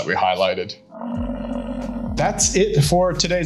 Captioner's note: buffalo grumbling